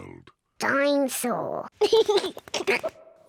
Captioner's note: giggles